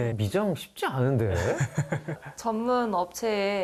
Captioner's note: ㅎㅎㅎㅎㅎㅎㅎ